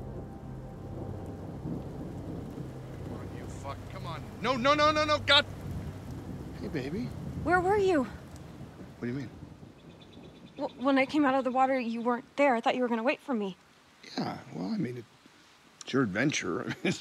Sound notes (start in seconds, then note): 1.8 rain pattering; 16.6 chuckles